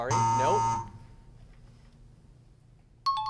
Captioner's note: buzzer sound; times up ring